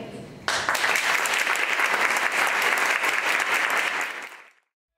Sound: crowd applauding

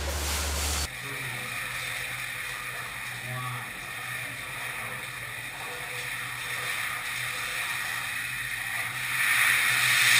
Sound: bubbling liquid sound; loud sizzling sound

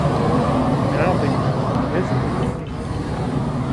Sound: indistinct chatter

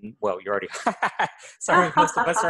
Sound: laughter

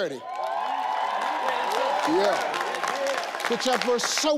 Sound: audience cheering

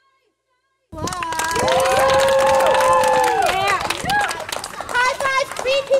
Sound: clapping and cheering

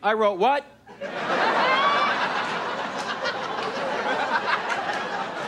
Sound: audience laughs

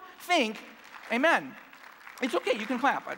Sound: clapping

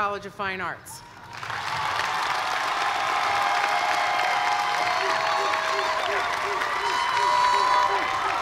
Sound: cheers and applause

